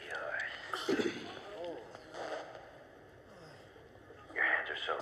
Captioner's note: zipper unzips